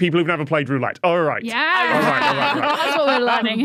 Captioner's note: laughs